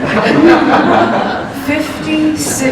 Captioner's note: laughter